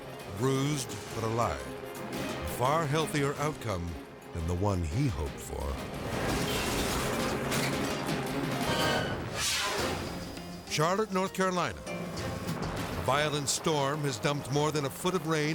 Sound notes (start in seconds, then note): 5.7 intense music; 6.3 metal clattering; 8.7 screen whooshes